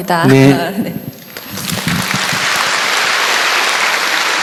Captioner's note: audience applause